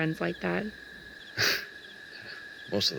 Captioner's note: Michael Chuckling